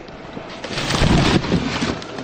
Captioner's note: window pushes in